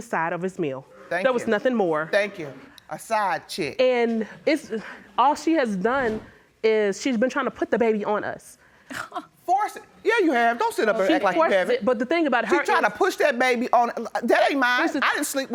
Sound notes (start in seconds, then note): 10.1 scoffs